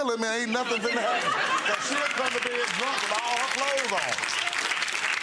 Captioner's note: audience laughs; audience applauds